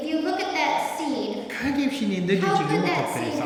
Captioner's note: speaking tibetan